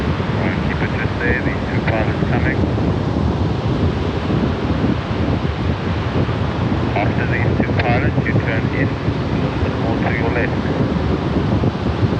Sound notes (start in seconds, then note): 0.7 speaking faintly